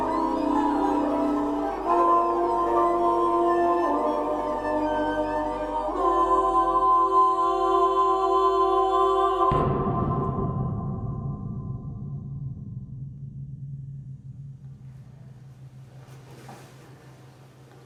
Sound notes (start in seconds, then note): 2.3 sound of angelic voices; 9.4 boom sound